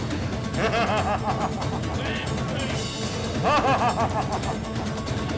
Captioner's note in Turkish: Gülüyor